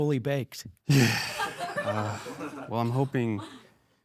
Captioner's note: audience laughing